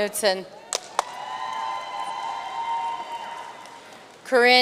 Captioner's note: audience cheering and applauding